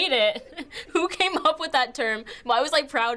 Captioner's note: laughing